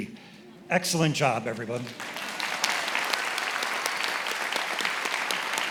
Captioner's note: attendees applauding